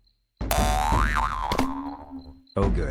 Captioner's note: bounce